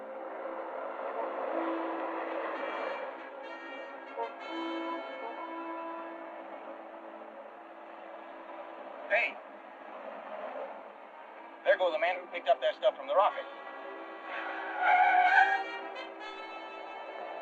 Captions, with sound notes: [suspenseful music] Hey! There go the men who picked up that stuff from the rocket. [tires screeching]